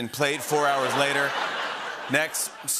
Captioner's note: laughter